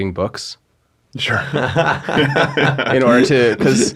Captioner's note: everyone laughing